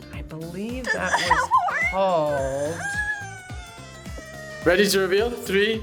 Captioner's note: whimpers